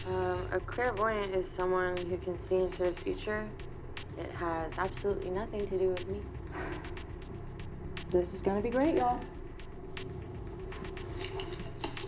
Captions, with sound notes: - A clairvoyant is someone who can see into the future. It has absolutely nothing to do with me. (Rachel sighs) - This is gonna be great, y'all.